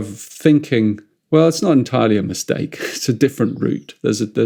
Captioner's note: chuckles